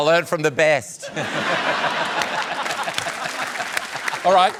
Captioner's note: laughter